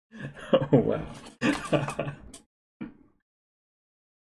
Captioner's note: laughing